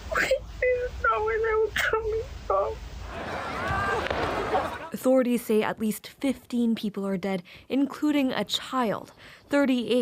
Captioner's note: crying